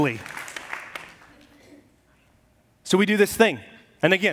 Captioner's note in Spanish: aplausos de la congregación